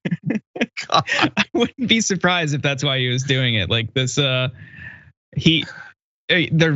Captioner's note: laugh